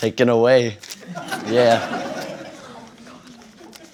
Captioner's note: laughter